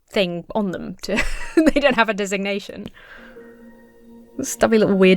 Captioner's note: laughs